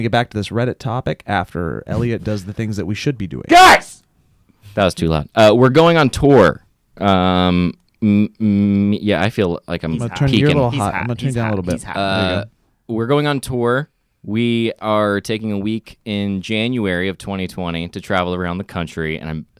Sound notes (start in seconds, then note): 3.5 shouts